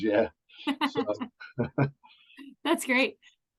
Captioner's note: laughs